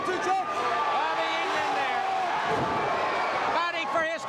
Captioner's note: crowd cheering